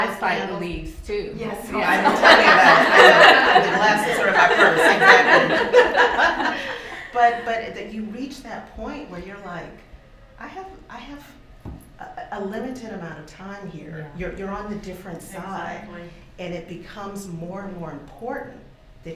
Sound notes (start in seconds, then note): 1.8 laughter